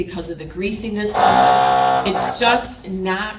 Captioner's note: tool motor whirring